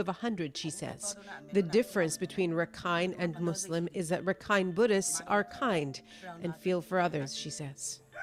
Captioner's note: speaking foreign language